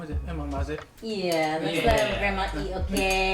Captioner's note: laughs